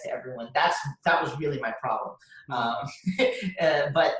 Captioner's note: laughs